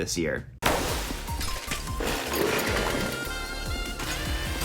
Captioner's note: bubbles popping; upbeat music